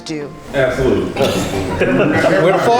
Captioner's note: laughs